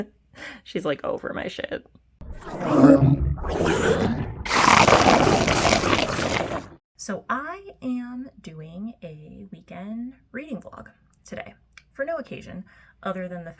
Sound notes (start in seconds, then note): 2.3 chomping noise